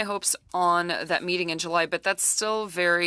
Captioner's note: speaking French